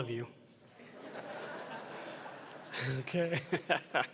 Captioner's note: laughter